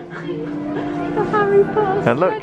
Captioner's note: laughing